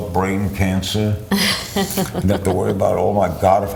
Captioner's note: laughs